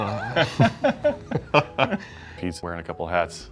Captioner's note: laughs